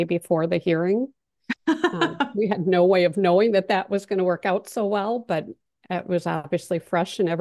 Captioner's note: laugh